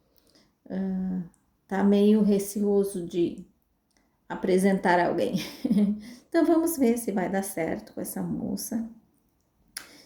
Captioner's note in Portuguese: risadas